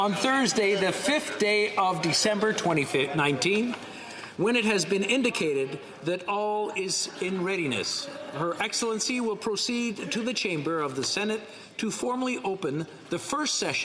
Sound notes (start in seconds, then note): 1.1 laughter